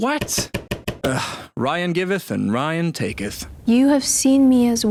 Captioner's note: sigh